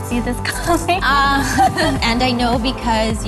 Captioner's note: both laughing